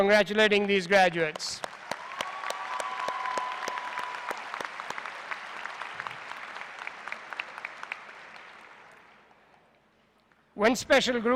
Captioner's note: applause